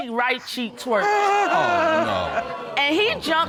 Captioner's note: audience exclaims